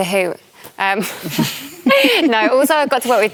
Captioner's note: laughter